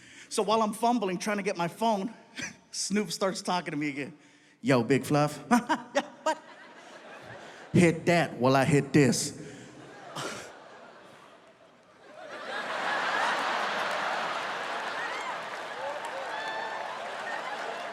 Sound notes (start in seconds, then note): 2.2 chuckles; 7.1 audience laughs; 9.2 audience laughs; 9.3 audience applauding